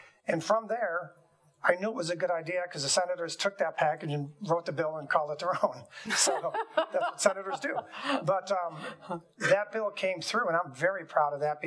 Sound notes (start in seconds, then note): 6.0 laughing